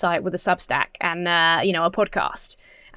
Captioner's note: none